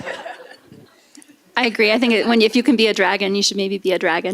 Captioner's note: laughter